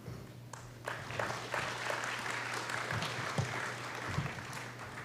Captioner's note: applause